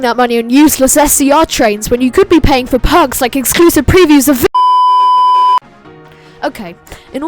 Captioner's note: beep